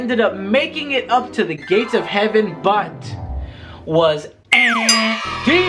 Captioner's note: mimics buzzing